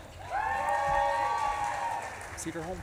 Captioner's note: audience claps and cheers